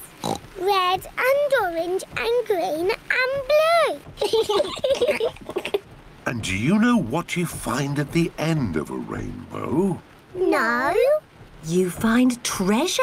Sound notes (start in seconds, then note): 0.2 oinks; 4.2 both laugh